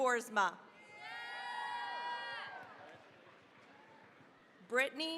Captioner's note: cheering, applause